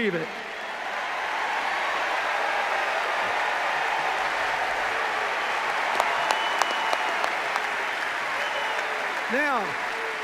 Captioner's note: cheers, applause